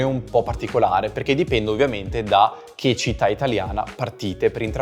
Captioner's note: Italian